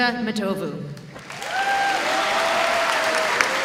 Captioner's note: audience applauding